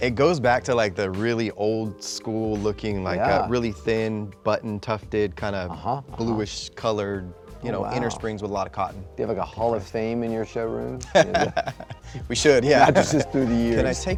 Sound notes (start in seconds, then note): 11.0 man chuckling